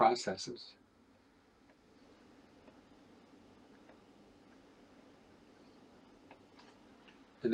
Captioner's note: silence